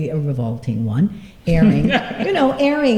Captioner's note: laughter